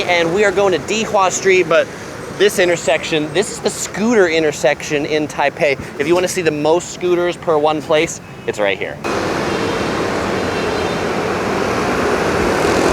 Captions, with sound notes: and we are going to Dihua Street. But this intersection, this is the scooter intersection in Taipei. If you wanna see the most scooters per one place, it's right here. (bike engines)